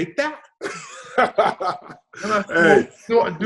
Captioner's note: David laughs